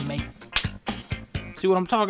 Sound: smack

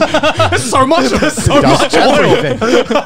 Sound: laughing

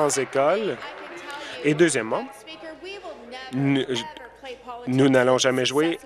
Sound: applause

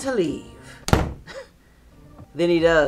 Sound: door slams; chuckles

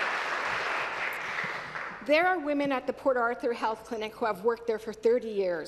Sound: applause

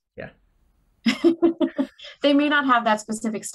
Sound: laughing

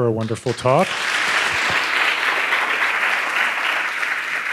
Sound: audience applauding

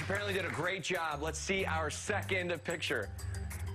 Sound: applause

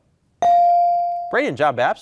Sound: beep

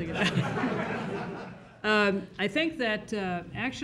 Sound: crowd laughs

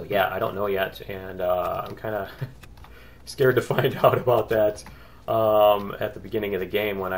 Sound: laughs

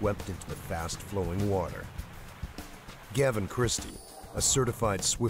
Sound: voiceover

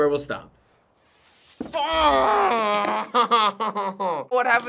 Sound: frustrated chuckle

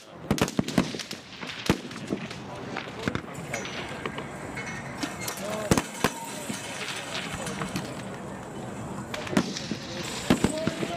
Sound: rifle shots

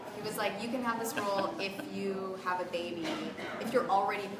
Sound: laughter

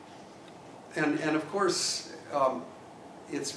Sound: none

